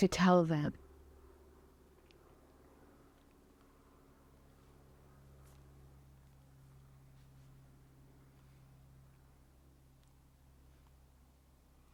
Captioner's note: pauses 11 seconds